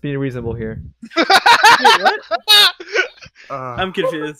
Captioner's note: laughs